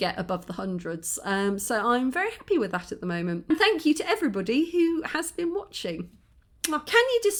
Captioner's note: kiss